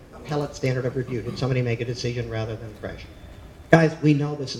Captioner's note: speaking faintly